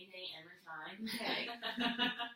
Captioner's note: laughs